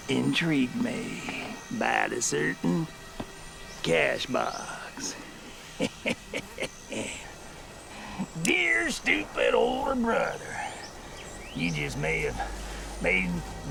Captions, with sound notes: (chuckles) Dear, stupid, older brother, you just may have made one thing successful out of your wretched life.